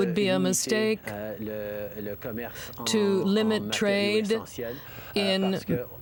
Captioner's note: speaking French